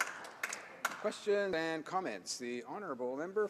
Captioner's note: some Applause